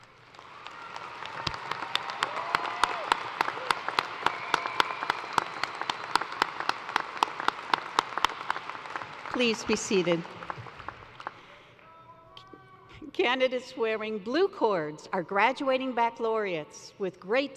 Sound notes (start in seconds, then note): 2.3 applause; 4.7 cheers and applause